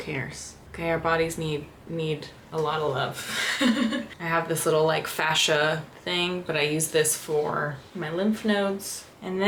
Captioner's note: laughter